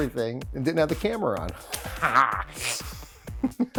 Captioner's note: laughs